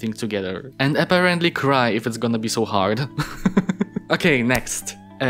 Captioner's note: laughs